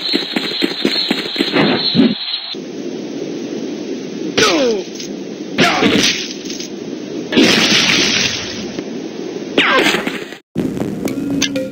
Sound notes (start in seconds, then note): 3.5 grunting